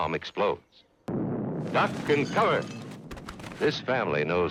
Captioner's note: bomb exploding